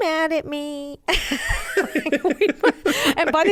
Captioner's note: both laugh